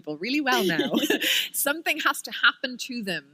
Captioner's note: chuckle